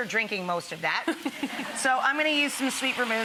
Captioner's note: audience laughs